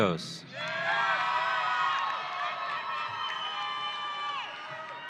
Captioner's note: audience cheering